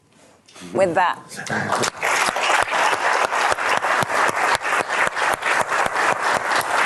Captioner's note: applause